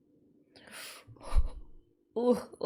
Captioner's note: sharp inhale